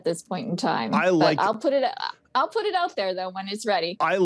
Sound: on phone

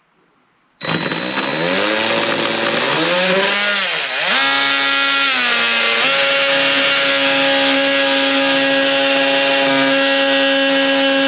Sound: oscillating tool sounds

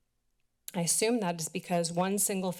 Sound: clicks tongue

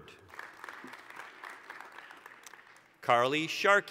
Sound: applause

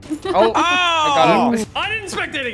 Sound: everybody laughs

